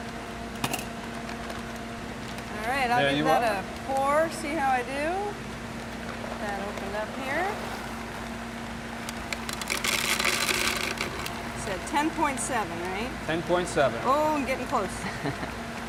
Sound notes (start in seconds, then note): 10.0 hops rattle